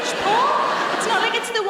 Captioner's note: audience laughing